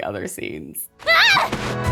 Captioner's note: screams